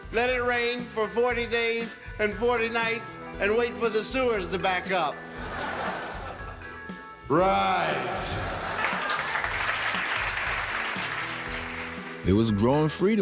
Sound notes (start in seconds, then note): 5.9 audience laughs; 7.6 audience laughs and applauds